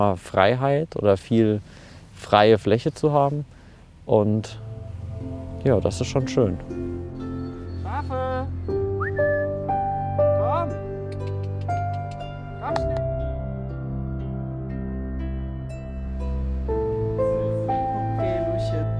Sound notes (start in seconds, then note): 6.7 idyllic music; 8.6 whistles; 13.5 soft music